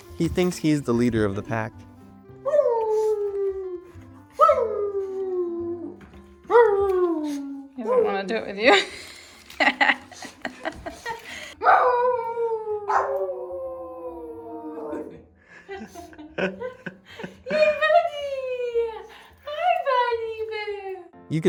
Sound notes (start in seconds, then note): 4.4 dog howling